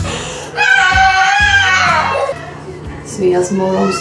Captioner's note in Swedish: skriker